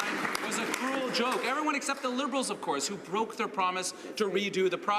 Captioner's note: some Applause